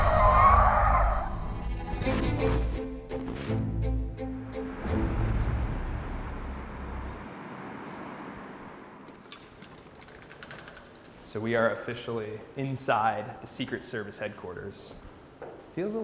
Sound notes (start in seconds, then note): 0.0 tires screeching; 2.8 suspenseful music; 4.8 cars whirring